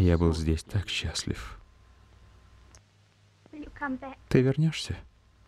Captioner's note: none